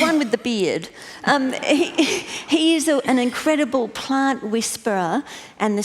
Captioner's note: laughter